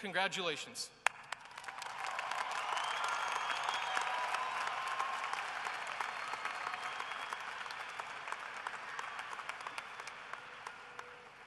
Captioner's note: cheering and applause